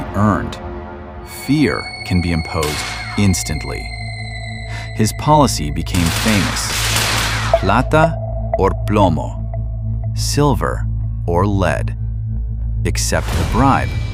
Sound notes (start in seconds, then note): 6.0 static